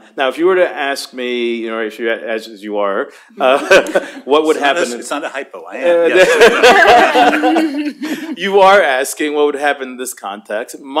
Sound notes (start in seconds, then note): 3.4 laughs; 6.0 laughter